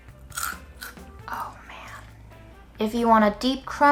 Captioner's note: crunches